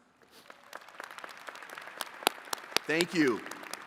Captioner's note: attendees clapping